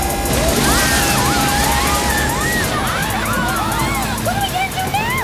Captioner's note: screaming